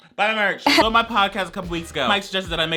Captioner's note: woman chuckles